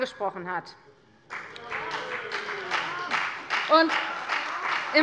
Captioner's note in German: Beifall bei der FDP